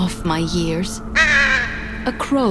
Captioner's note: crow caws